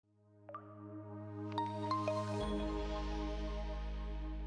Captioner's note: logo chiming